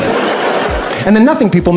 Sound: laughter

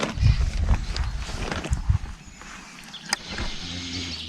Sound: bird chirping

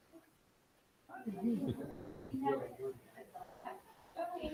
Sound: speaking faintly off mic

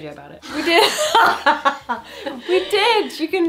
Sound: both laughing

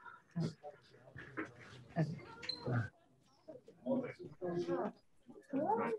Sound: scientists chattering quietly

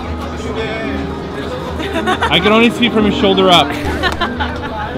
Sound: girls laugh; laughs

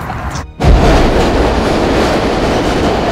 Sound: train rushes past

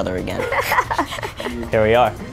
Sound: laughter

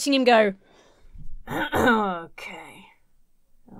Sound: clears throat

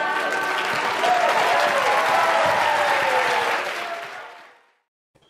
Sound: applause

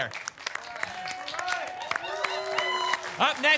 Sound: applause and cheering

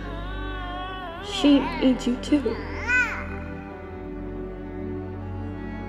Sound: baby crying

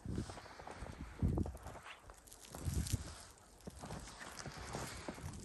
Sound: sound of walking in the snow

